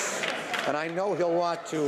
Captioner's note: some Applause